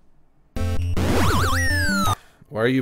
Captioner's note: game warbles